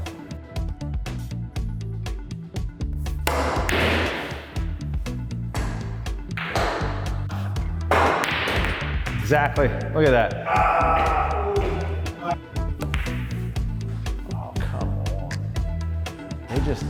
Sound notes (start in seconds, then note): 0.1 light music; 3.2 ball cracking; 5.0 light music; 7.7 balls cracking; 10.4 groaning; 13.3 light music; 15.8 light music